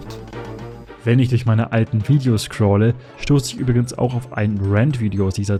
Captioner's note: voiceover